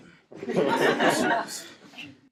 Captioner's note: laughing